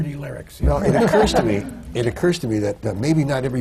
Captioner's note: laughter